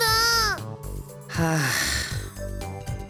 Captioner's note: sigh